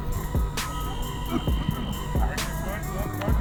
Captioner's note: whistle blows